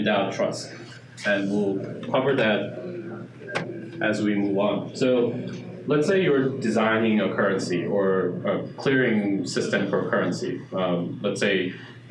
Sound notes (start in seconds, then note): none